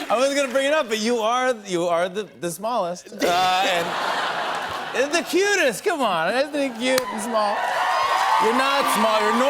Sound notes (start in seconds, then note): 3.1 laughter; 6.6 cheers and applause